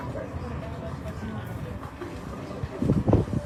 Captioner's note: indistinct chatter